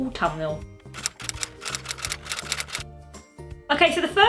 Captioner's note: typewriter sound effect